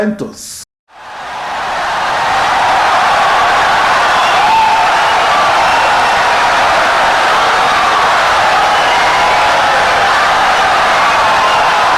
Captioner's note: wild applause and cheering for 17 seconds